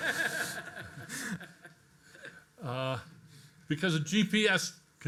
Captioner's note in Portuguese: todos rindo